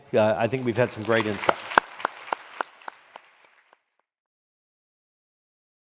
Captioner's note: audience clapping